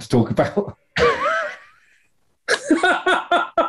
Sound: sniggering; laughing

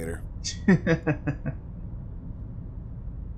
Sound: both laughs

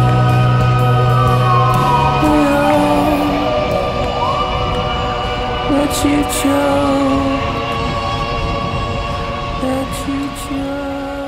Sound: sirens can be heard, with police chatter

